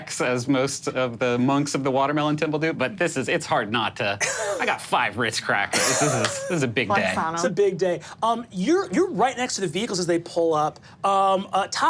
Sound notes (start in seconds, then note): 3.8 laughing